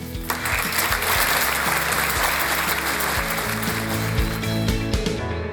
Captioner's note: audience applause and background music playing until the end of the program